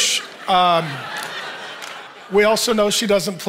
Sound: audience laughing

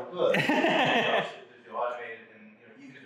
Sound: laughs

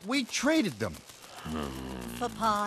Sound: angry growl

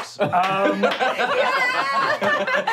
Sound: clapping

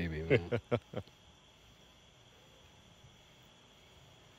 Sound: Jon laughs

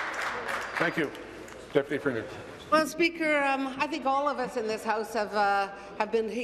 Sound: applause

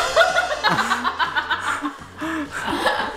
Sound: laughing

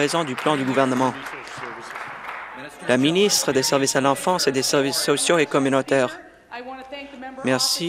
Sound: applause

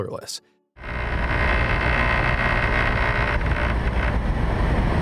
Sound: engine buzzing

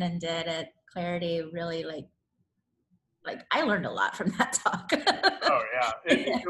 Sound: laughs

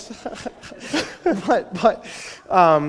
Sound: laughter

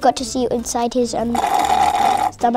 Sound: slurping sound

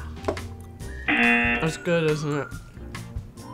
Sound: buzzer

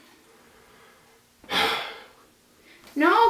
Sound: sighs

